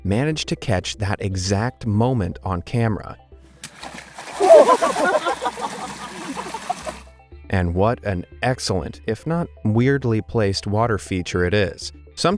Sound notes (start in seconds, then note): 3.6 water splashing